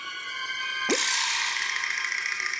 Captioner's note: blop!